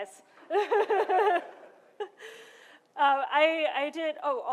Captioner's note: laughter